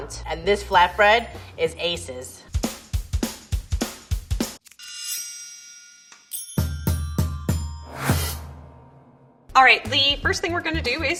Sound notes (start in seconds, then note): 2.5 energetic music; 4.8 metal ringing and chiming